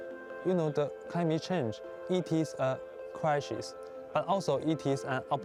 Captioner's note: speaking Chinese